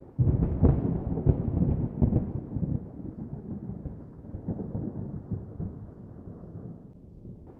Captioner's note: thunder